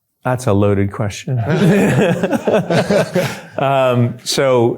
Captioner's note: laughter